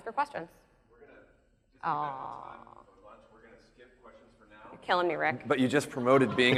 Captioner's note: man speaks off mic